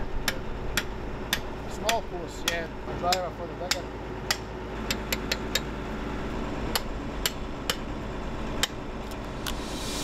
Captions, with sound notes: - Small force. (tools clang)